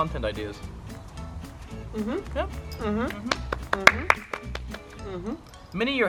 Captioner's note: mhm's of agreement and claps